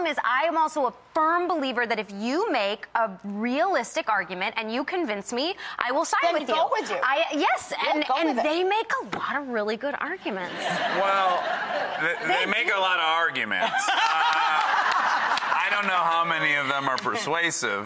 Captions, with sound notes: I am also a firm believer that if you make a realistic argument and you convince me, I will side with you. They go with you. Yes. Yep, go with it. And they make a lot of really good arguments. (audience laughing) Well, they make a lot of arguments. I don't know how many of them are persuasive,